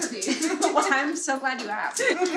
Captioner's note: laugh